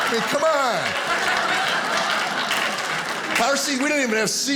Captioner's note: audience applauding